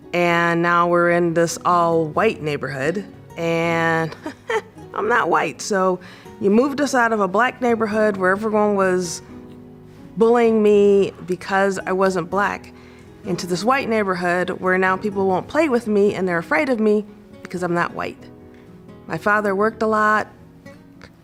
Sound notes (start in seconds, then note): 4.1 laughs